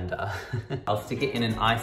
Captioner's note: laughs